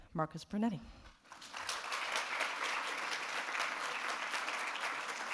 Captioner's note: audience applauding